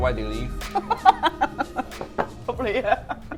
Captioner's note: laughs